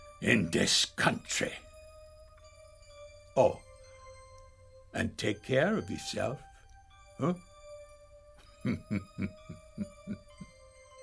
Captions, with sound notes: in this country. Oh, and take care of yourself, huh. (laughs)